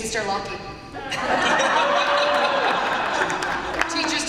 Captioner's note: laughter and applause